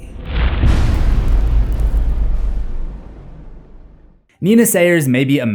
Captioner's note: impact